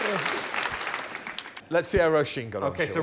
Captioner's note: laughter